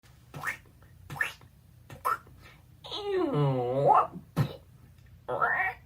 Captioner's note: samples of voice sound effects